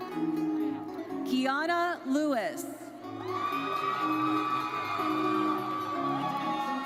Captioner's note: audience cheers